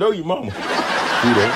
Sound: laughs

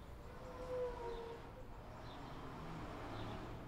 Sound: traffic sounds

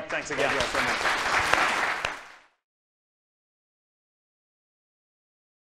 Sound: applause

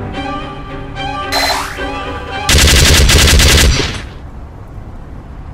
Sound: sentry gun beeps; sentry gunfire sounds

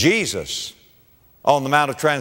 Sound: none

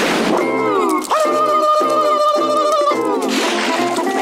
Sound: yelling

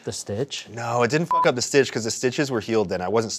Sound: beep

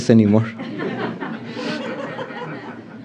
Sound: laughter

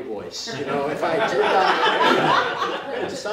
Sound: laughter

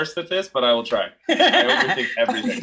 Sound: laughs

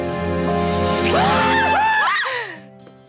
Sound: screaming

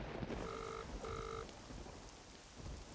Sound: thundering; phone ringing

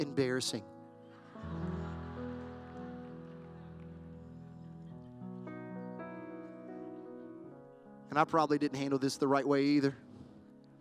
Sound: laughter

